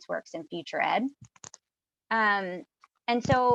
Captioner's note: keyboard clicking